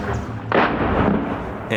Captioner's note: bomb blast